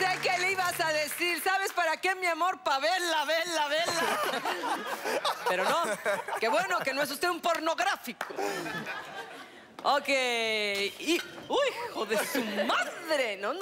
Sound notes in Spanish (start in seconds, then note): 0.0 Aplausos; 3.8 Risas; 12.0 Risas